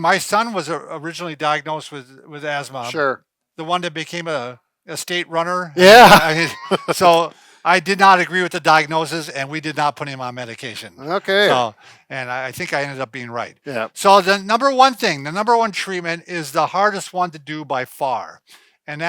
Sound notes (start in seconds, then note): 5.8 laughing